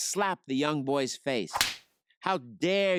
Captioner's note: hand slaps